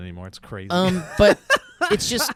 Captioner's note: laughs